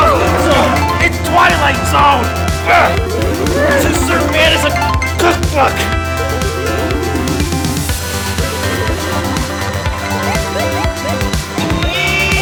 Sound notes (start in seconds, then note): 0.2 both grunting; 4.3 video game beeping; 9.7 upbeat music